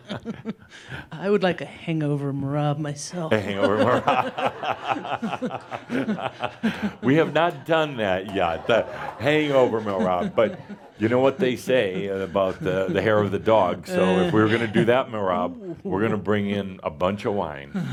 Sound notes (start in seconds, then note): 0.1 they chuckle; 5.9 laughter